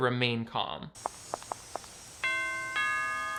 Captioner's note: shoes clacking; bell ringing